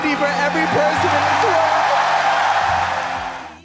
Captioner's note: cheering